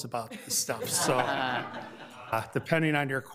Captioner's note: committee members laugh